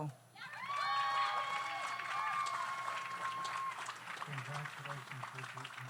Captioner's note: audience cheers; audience applauds